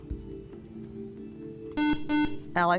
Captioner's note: buzzer